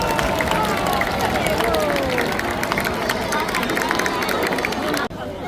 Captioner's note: applause